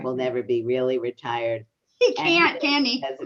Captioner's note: exclaims